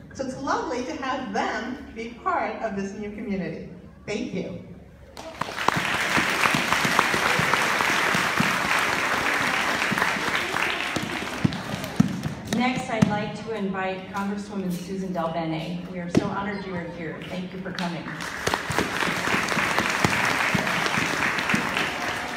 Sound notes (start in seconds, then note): 5.2 applause